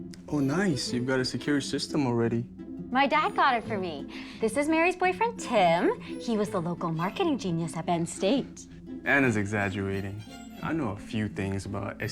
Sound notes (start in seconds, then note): none